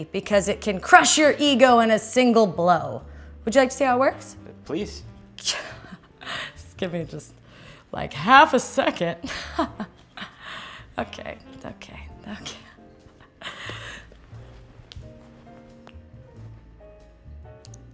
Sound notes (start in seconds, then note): 9.2 fake laughter